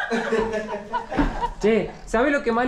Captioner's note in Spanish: Risas